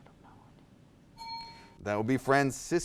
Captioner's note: bell dings